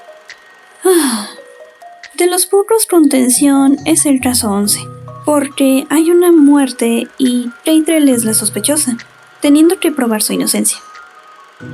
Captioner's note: sigh